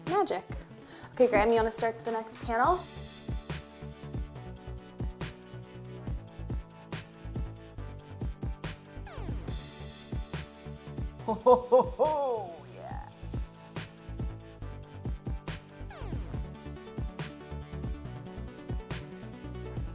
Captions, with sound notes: Magic. Okay, Graham, you wanna start the next panel? (laughing) Yeah.